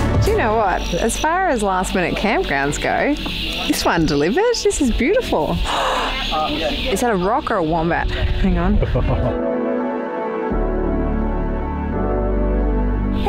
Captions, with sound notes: Do you know what? As far as last-minute campgrounds go, this one delivers just as beautiful. (gasps) Is that a rock or a Wombat? Hang on.